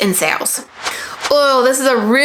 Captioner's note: transition swooshing